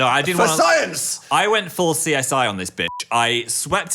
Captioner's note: beep